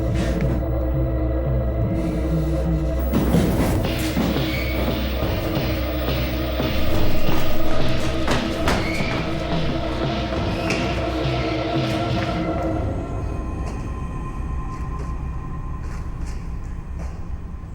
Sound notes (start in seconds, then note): 1.5 heavy breathing; 3.6 dramatic music; 12.7 light dramatic music